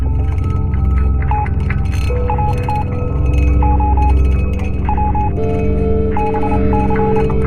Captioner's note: pensive music; signal beeping